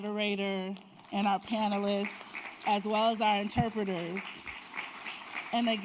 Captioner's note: applause